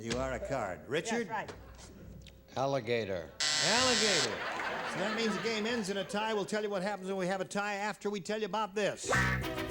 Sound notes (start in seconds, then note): 3.4 buzzer